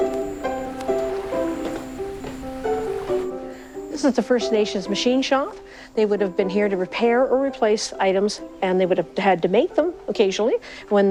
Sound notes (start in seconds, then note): 0.0 upbeat music; 3.8 door opens; 3.8 waves gently lapping